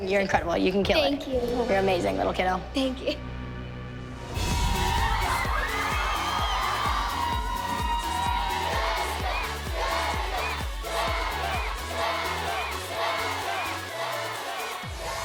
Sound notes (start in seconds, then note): 4.1 cheering; 8.3 chanting